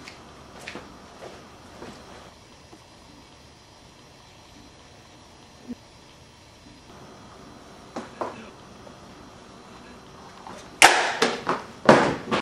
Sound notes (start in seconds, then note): 11.9 slam